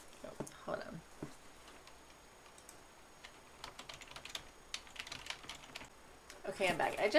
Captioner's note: typing noises